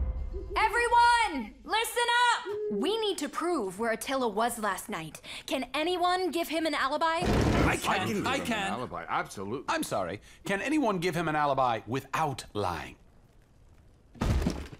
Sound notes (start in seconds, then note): none